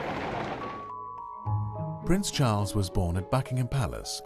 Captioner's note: voiceover